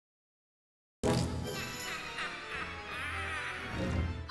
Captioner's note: ghoulish laughter